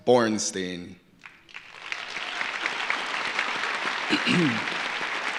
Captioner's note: audience applauding